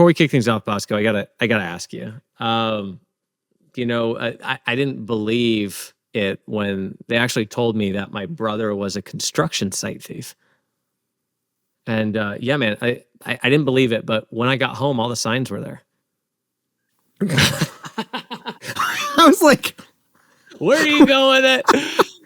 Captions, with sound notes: But before we kick things off, Bosco, I've got to ask you, I didn't believe it when they actually told me that my brother was a construction site thief. And yeah, man, I didn't believe it, but when I got home, all the signs were there. (laughing) - I was like, where are you going with it?